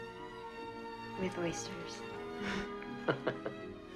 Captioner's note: laughing